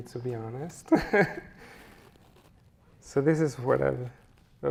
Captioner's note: chuckles